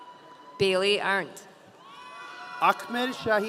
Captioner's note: audience cheering